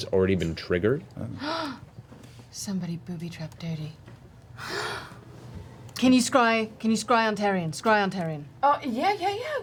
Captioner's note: gasps